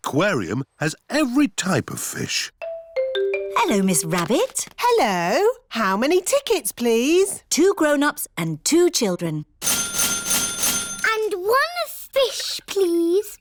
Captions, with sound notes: The aquarium has every type of fish. -Hello, Miss Rabbit. -Hello. How many tickets, please? Two grown-ups and two children. (DINGING) And one fish, please.